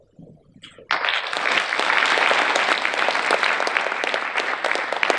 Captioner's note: audience applause